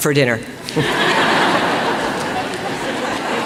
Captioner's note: laughter